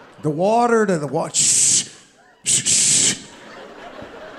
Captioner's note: audience laughing; Sebastian imitating faucet; audience laughing